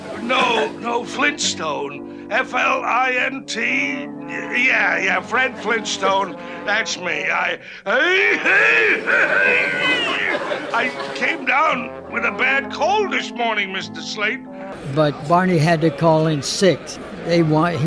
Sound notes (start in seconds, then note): 13.9 coughing